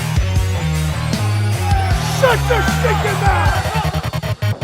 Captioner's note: shouting